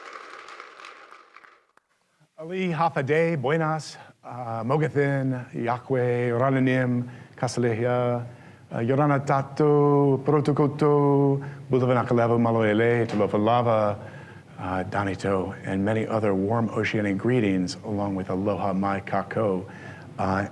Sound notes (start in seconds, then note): 0.0 applause; 2.4 speaking greetings in many different languages